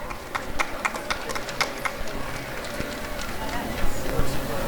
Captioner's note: applause and cheering